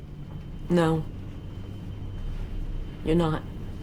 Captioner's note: none